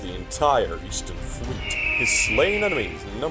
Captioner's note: eagle caws again